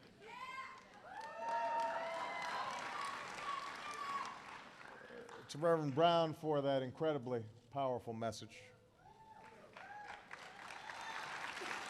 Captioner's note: laughter and applause